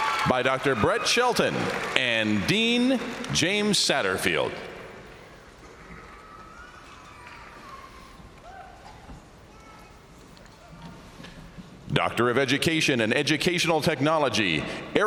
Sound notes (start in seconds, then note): 0.0 crowd cheering; 6.7 baby crying; 6.7 crowd cheering